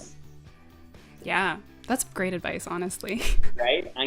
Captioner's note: giggles